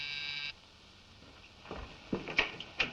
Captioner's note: door buzzer sounds